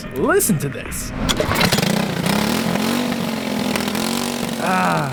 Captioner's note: engine firing off